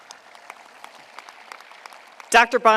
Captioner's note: applause